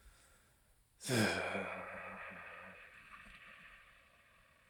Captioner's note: sighs